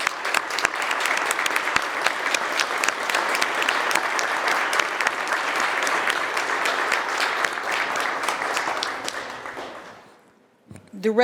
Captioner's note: applause